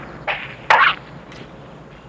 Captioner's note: bird squawk